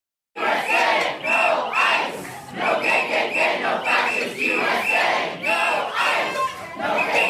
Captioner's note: chanting